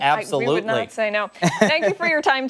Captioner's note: laughter